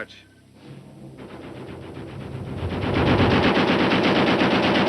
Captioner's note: gunshots